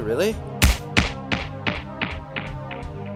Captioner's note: resounding whack